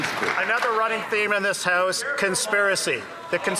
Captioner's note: some Applause